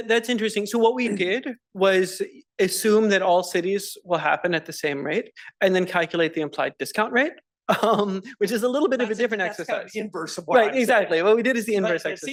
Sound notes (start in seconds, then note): 7.7 laugh